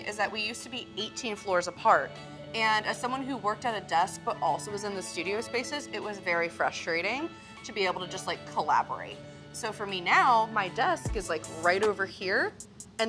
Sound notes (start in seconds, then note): none